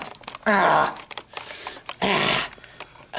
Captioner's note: grunts and fiddles with the camera